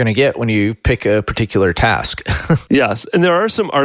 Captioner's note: laughs